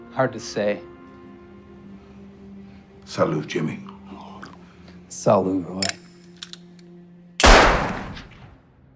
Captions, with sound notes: - Hard to say. - Salut Jimmy. - Salut Roy. (gunshot)